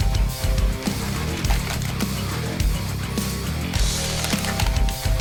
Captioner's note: upbeat rock music; buttons rattling